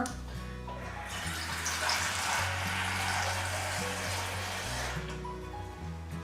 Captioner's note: tap running